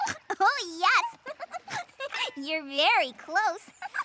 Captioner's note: laughs; both laugh